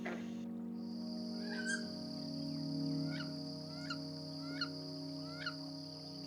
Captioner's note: wood duck call-whistle